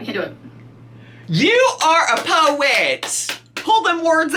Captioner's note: claps hands